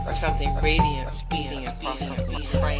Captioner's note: echoes